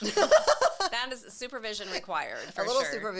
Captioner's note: laughs